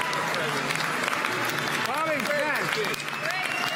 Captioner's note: applause